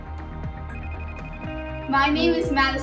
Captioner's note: phone rings